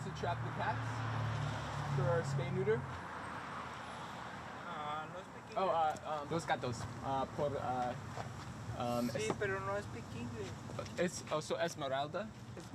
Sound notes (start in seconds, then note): 6.0 speaking in Spanish; 12.5 speaking in Spanish